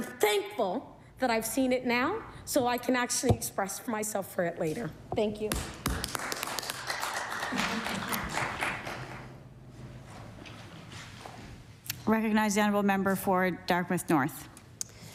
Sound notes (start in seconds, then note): 5.6 applause